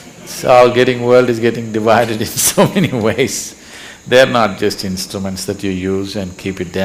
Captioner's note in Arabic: يضحك